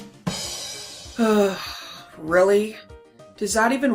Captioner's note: drum Fill FX; sighs